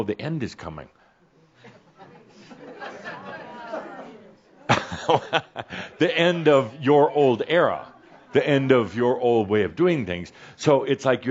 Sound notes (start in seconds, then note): 1.9 Adamus pauses, then chuckles